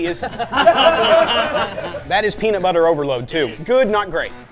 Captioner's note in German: lachen